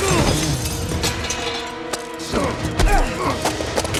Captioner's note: glass breaking; grunting